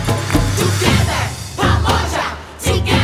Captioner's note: all chanting